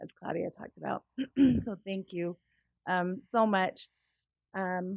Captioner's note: cough